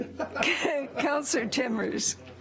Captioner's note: laughter